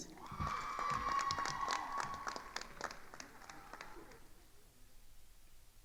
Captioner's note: attendees cheering and applauding